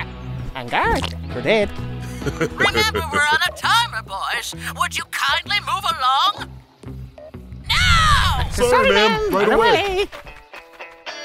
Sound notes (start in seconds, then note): 2.0 another hearty guffaw!